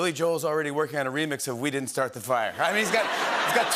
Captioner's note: laughter